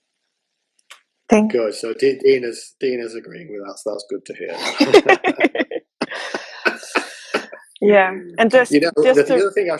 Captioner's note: laughter